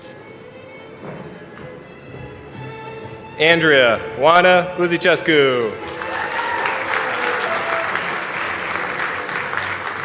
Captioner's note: cheers and applause